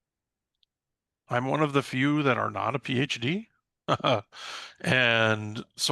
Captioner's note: chuckles